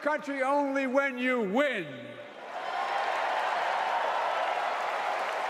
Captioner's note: applause